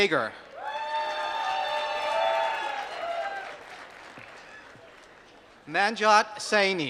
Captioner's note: applause